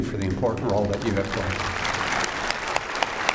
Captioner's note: applause